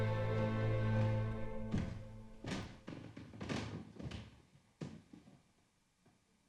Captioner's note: stairs cracking under footsteps